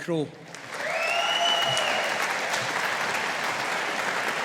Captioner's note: audience applauding